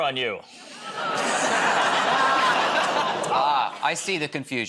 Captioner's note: laughter